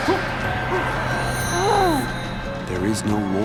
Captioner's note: groaning